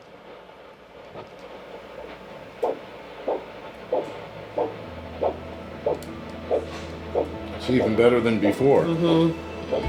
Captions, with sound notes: [soft pumping] - It's even better than before.